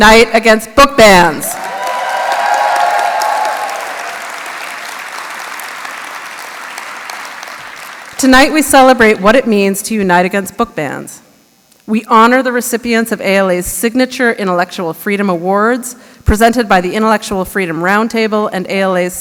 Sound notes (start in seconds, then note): 3.4 applause